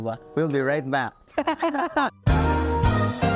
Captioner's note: both laughs